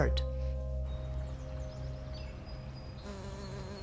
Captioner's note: birds singing; bee buzzing